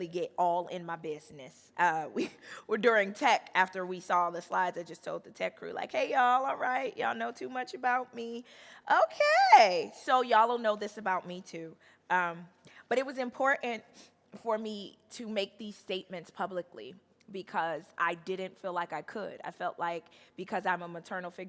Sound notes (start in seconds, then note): none